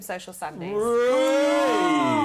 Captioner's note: cheering